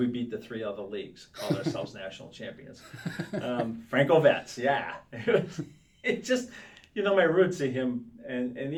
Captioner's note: laughs